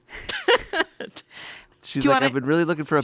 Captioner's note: chuckles